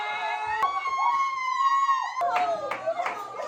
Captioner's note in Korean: 브로맨스 사이에 오열 두 명